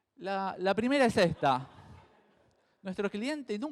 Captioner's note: crowd laughs